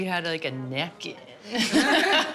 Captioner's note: laughs